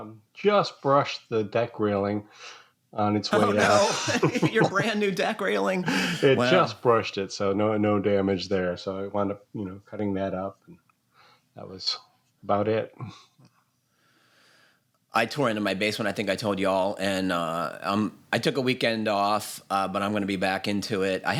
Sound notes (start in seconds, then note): 3.3 laughter